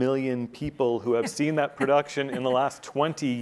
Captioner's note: laughing